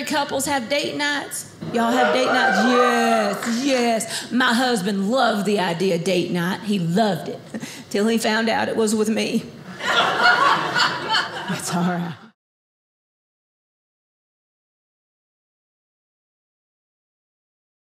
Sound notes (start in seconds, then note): 1.7 audience cheers; 9.7 audience laughing